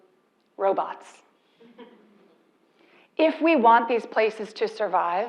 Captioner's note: laugh